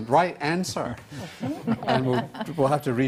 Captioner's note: panel laughs